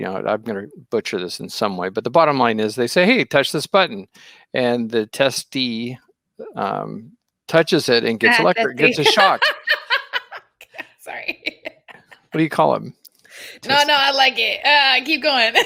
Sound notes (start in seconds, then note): 10.3 laughing